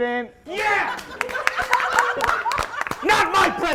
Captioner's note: aggressive clapping + auidence losing it